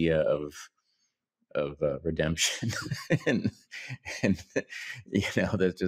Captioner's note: laughs